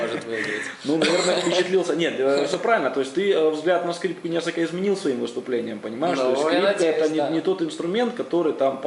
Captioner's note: laughs